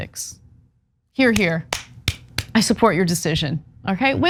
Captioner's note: applause